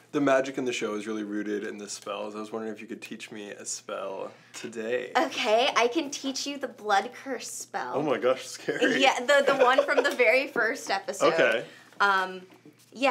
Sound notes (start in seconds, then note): 8.7 laughs